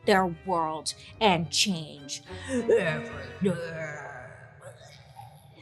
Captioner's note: groans